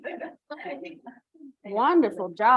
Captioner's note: chuckling